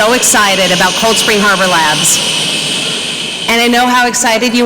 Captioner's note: audience members shushing